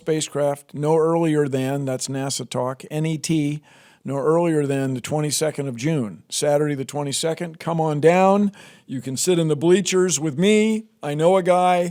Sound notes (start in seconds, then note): none